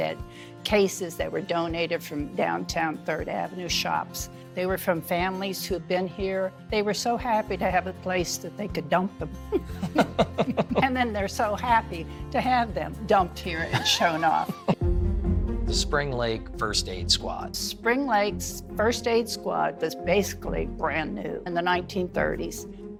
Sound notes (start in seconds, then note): 9.5 laughing